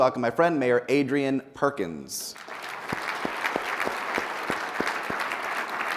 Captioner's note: people applauding